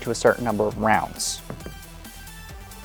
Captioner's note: dice rolling